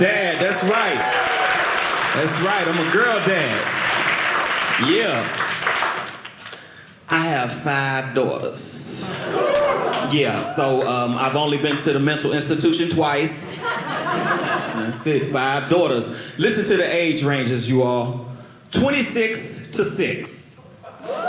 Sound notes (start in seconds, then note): 0.0 audience cheering